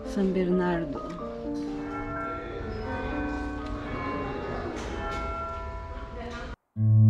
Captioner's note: tolling bells